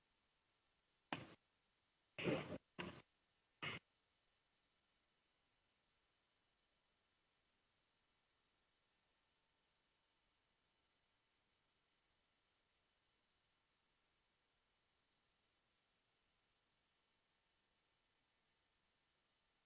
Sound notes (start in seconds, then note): 5.1 silence